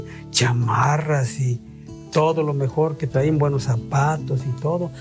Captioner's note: speaking in foreign language